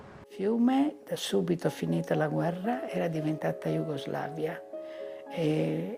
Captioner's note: speaking in foreign language